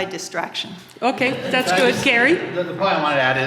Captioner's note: audience laughing